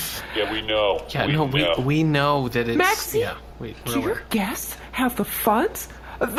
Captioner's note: excited